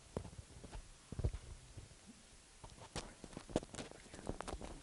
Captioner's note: static